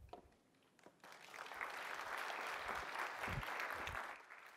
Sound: applause

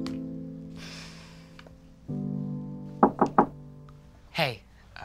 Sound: Simone sighs

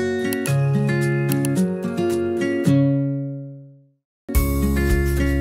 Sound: mouse clicking; bright music

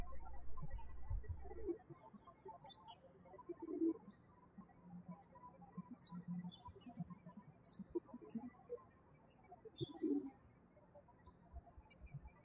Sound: birds chirping

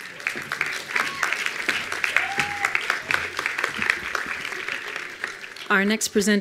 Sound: attendees applauding

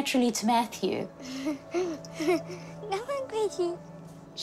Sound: chuckles

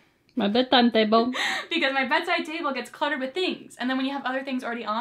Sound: mocking

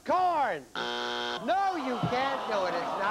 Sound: buzzer

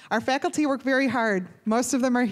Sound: none

